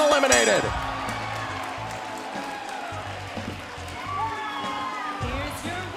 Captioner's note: bell ringing